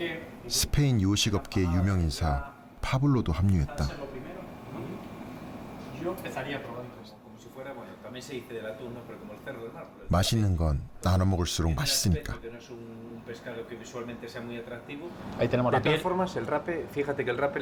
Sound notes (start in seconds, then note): none